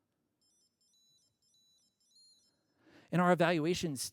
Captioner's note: beeping